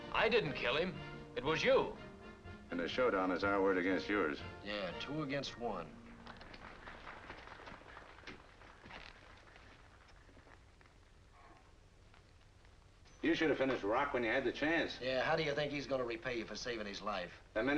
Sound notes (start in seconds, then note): 6.2 audience applauding